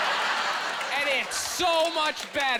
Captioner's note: laughing